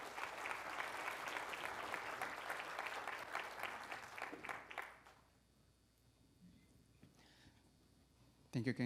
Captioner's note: applause